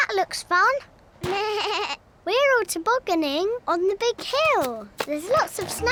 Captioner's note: bleats; laughs